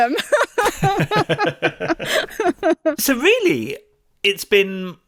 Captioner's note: laughs